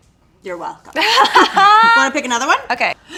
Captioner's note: laughing